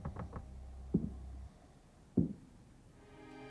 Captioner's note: floorboards creaking; footsteps thudding; creepy music